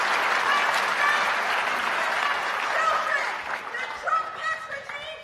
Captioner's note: applause; shouting